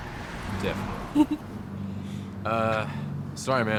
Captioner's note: Fern laughs